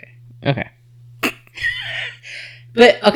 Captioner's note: laughs